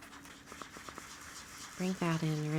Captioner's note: blending tool scrubbing